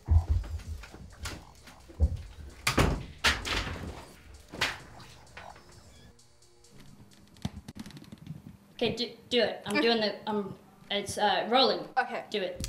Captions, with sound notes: [door slams] Ok do it, I'm doin' the, I'm, it's, ah, rolling Ok